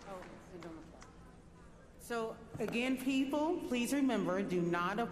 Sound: applause

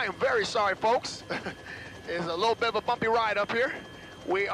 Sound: chuckles

